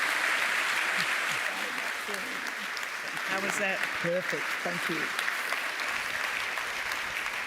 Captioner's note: applause